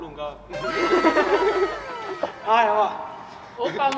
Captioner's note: laughs